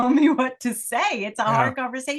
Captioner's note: laugh